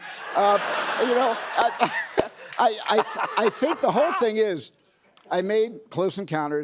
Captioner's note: laughter